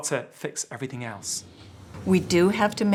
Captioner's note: whooshing